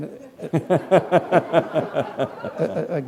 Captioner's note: laughter